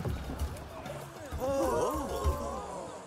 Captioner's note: they gasp